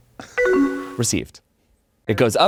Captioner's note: computer chimes